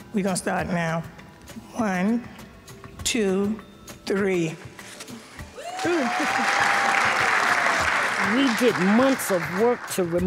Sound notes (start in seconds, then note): 5.6 audience applauds